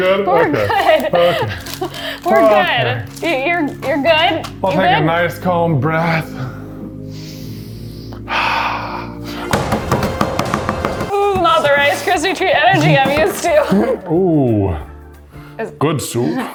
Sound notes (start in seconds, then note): 6.8 gentle music; 9.4 wood bangs